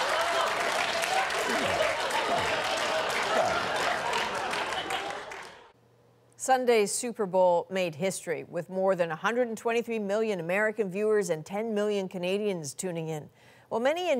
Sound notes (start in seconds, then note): 2.2 laughter; 3.2 applause